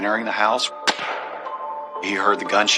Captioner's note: gunshshotot